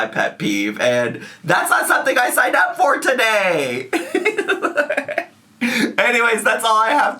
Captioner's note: laughs